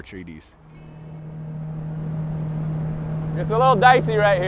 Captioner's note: boat motor rumbling